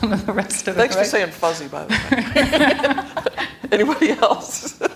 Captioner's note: laughter